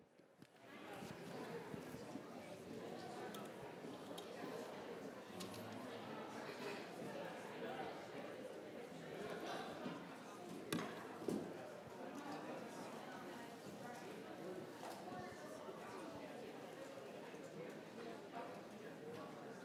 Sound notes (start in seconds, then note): 0.6 multiple background conversations